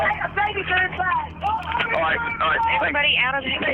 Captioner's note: yelling